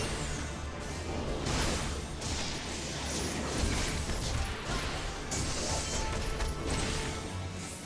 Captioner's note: gunshots